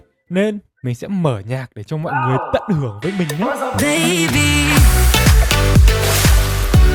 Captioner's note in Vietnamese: hắng giọng